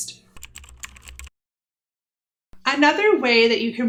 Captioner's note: typing